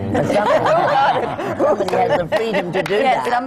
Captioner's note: laughter